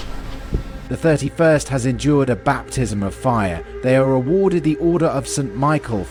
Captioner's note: none